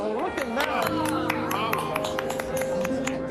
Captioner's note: applause